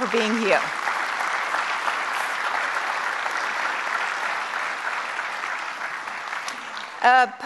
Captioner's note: applause